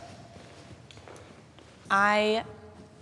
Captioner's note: footsteps scuffing